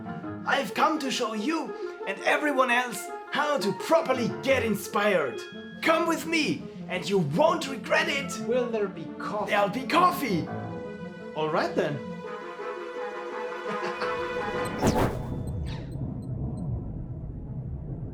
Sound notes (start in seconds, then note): 13.6 cackles; 14.8 zap!